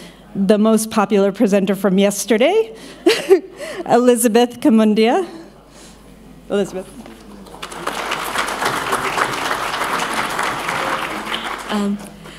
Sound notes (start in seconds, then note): 7.2 applause